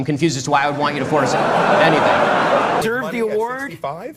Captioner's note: audience laughing